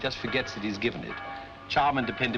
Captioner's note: church Bells